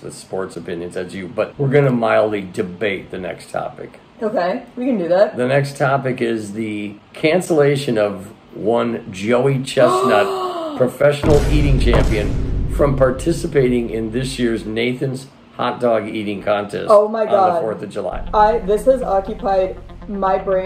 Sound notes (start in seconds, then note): 11.2 vine booms; 18.1 intense music